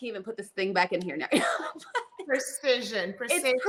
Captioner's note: chuckles